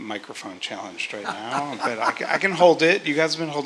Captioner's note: laugh